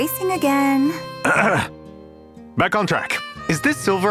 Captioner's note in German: räusper